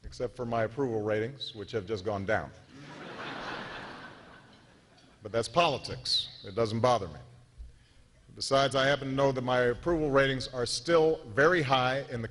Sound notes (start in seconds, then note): 4.2 laughter